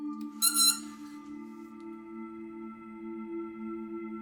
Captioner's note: metal squeaks